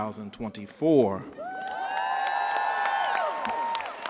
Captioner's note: cheers and applause